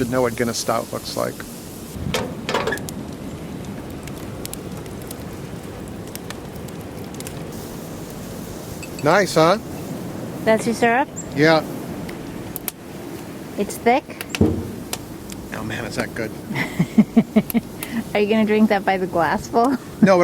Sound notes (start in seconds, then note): 4.9 fire crackling